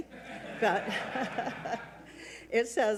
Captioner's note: audience laughs